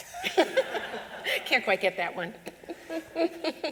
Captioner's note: laughter